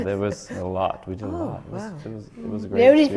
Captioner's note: laughs